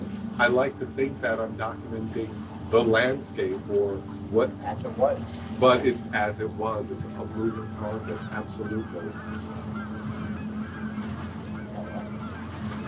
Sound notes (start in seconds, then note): 9.8 geese honking